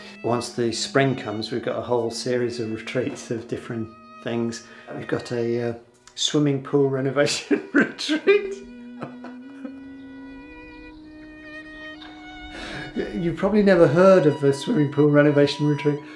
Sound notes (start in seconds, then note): 7.3 laughs; 9.5 sentimental music